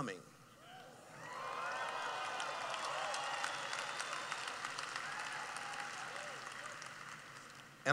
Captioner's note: cheering